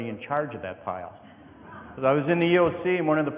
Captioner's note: audience laughing